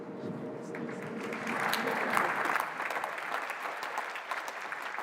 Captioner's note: applause